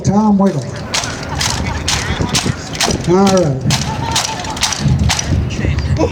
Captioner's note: armor clanking